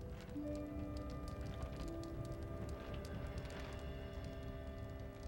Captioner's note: fire crackling